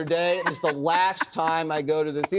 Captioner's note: laughs